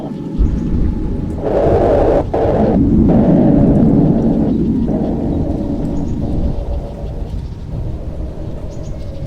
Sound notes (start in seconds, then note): 0.0 A huge burst of wind